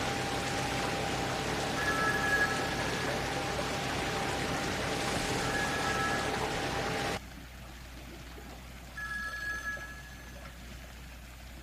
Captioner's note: phone ringing